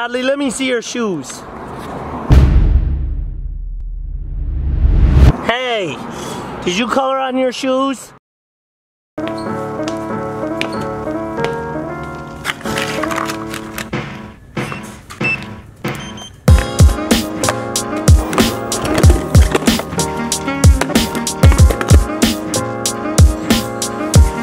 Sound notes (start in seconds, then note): 9.2 bright jazz music; 15.8 beeping; 18.0 wheels rolling; 20.6 heavy tapping